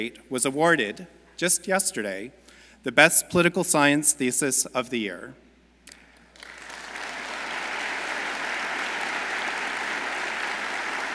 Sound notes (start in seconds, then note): 6.0 audience applauds